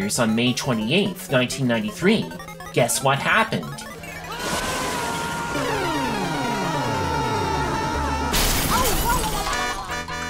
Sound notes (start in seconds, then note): 4.3 Mario and Luigi screaming; 7.4 continue screaming; 8.3 crashing